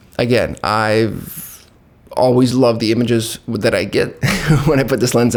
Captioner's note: laughs